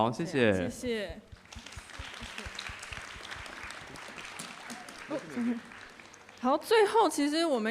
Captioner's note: applause